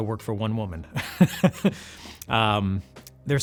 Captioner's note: laughs